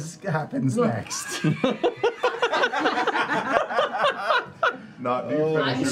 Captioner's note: laughter